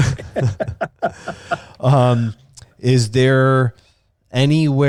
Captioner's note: both laughing